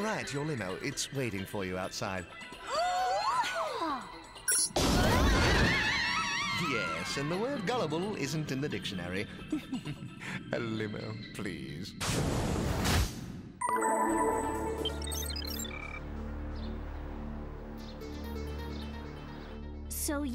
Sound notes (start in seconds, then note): 4.9 screaming; 9.2 laughs